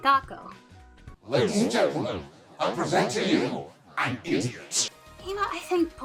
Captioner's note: distorted John Oliver voice